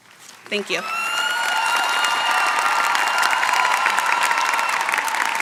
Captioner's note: applause